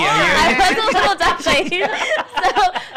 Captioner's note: laughing; laughs